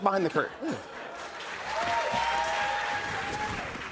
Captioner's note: cheers and applause